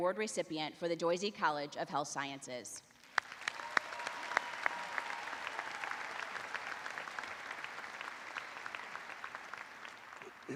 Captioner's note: applause